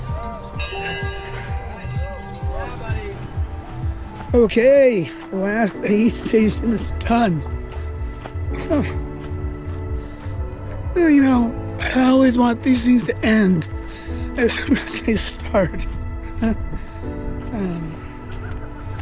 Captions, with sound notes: (crowd cheering) - Yeah, buddy! - Okay. The last aid station is done. Well, you know, I always want these things to end as soon as they start.